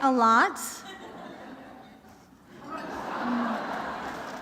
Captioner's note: laughter